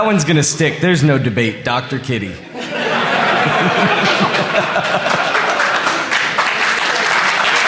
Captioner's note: applause